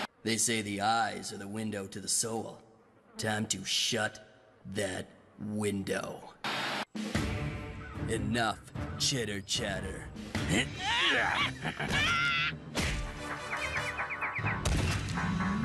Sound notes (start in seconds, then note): 10.4 Mal and Izzy Grunting